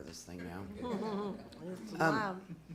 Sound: laughing

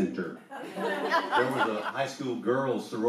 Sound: audience laughs

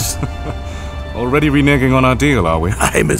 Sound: laughing

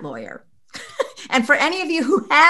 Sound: chuckles

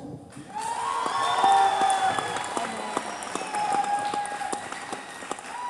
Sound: cheers

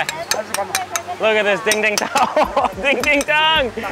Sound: chuckles

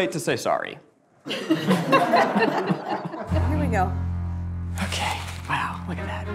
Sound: group laughs

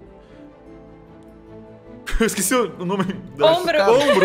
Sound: laughs

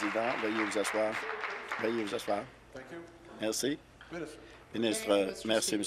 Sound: applause

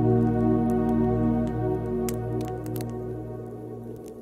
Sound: fire crackling

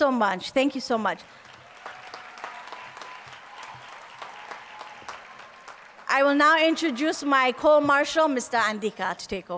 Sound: applause

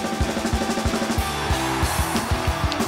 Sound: crowd Cheers

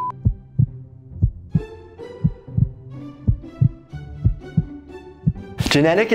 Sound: beep; heart thumping

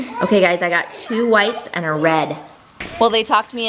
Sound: gasps

